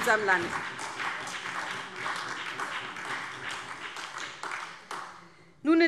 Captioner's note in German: Beifall SPD